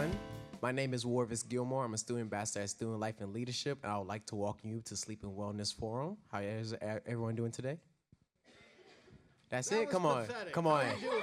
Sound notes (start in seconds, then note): 8.9 light audience chatter